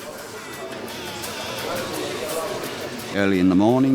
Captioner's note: fishermen chatting